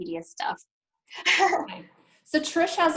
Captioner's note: chuckles